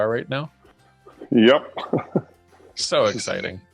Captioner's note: laughs